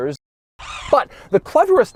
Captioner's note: servo noise